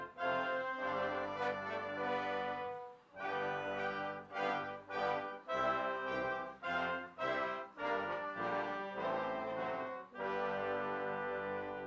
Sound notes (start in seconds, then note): none